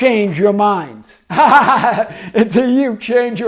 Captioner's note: laughs